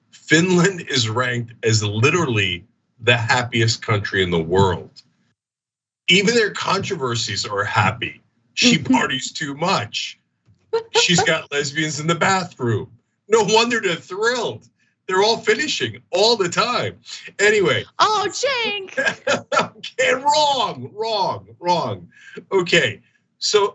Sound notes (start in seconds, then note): 18.0 laugh